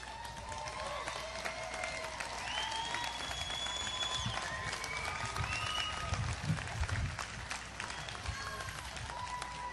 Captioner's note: audience applause